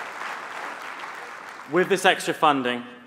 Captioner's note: applause